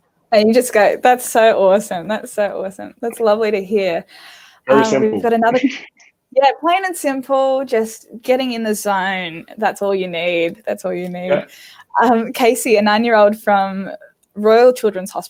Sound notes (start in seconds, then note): 4.7 laughing